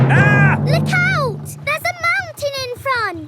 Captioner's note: captain dog screams